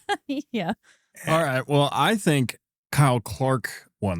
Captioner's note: laughing